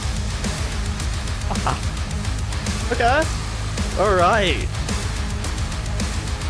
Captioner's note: some more laughter cuz why not